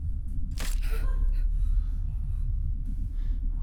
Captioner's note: crunching